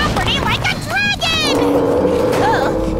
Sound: roaring

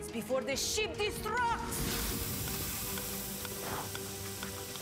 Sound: ticking

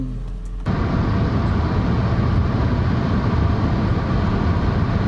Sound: humming of road noise

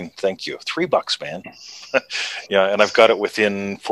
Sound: chuckles

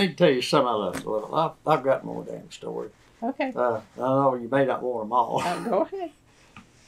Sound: laughs

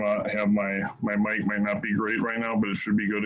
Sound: mic static

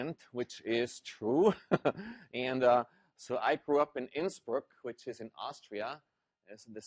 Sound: laugh

